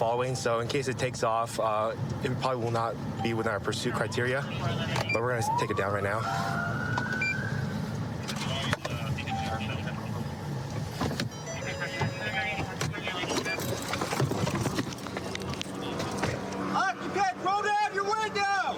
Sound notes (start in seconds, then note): 6.8 police siren; 11.2 car door chiming